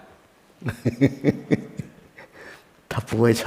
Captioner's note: hahaha